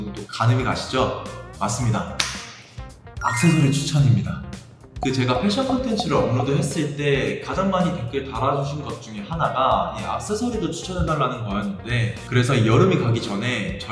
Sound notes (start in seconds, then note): 2.2 clap clap